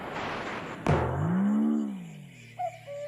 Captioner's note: boink; cuckoo! cuckoo!